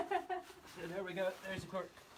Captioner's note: laughs